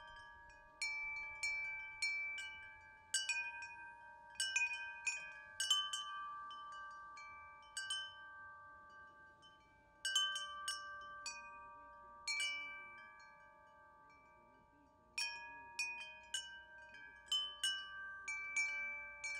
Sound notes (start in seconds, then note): 8.5 wind chimes chiming